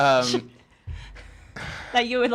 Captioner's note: laughter